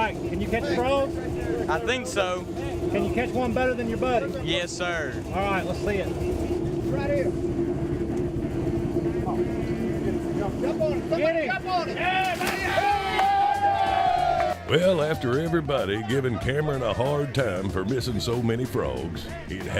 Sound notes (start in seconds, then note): 12.1 cheering and clapping